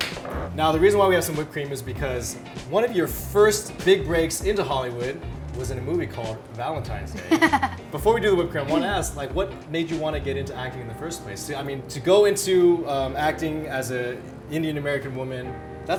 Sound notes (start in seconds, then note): 0.0 Megan claps; 7.1 Megan laughs